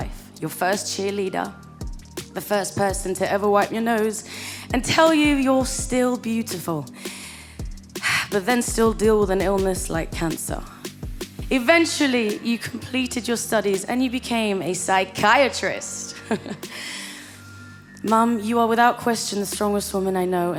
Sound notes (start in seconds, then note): 7.4 sighs; 16.1 chuckles